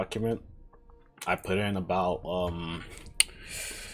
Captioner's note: lip smack; inhales